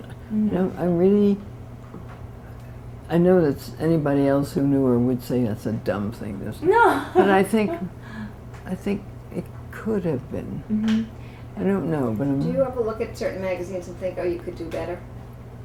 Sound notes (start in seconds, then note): 6.9 laughter